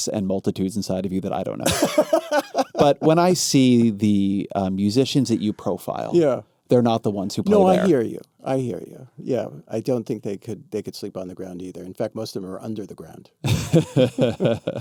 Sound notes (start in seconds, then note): 1.6 laughing